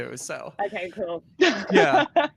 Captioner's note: laughs